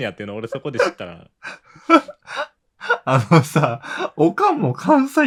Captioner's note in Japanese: 笑い